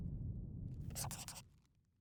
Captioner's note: scribbling